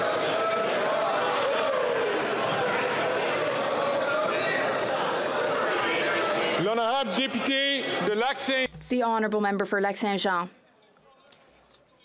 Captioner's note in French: voix de l'interprète